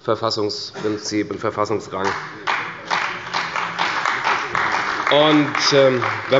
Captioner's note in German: Beifall bei der CDU